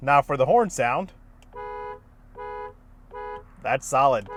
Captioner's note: car hooting